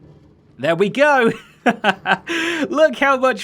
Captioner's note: chuckles